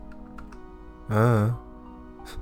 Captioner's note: mumbles "I don't know"